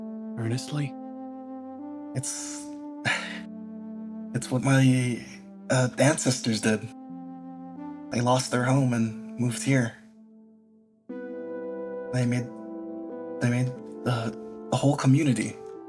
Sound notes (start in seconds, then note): 3.0 sigh